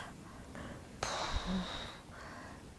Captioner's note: sighing